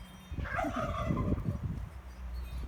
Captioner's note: turkeys gobble